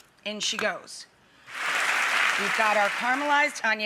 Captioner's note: audience applauds